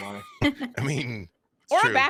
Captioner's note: group laughs